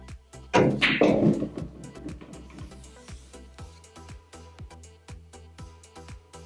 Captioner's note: pool balls clacking and thudding